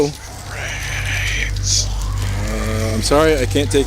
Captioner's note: creepy whisper